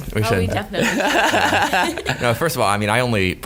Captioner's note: laughing